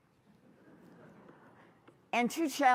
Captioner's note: laughter